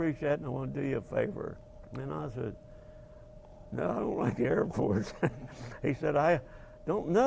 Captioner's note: laughing